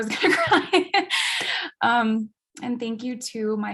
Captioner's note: chuckles